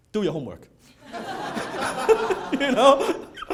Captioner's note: audience laughing